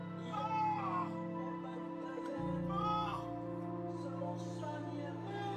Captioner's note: cries out in pain